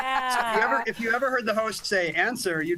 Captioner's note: laughter